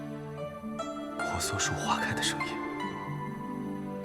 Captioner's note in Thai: เสียงดอกต้นสาละบาน